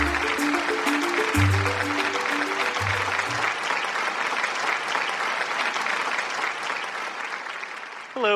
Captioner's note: audience clapping